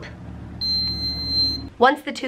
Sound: pump beeps

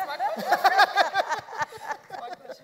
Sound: panelists laughing

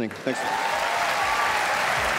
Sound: crowd laughs

